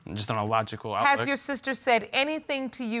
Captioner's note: none